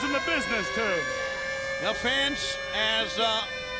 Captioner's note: air sirens blaring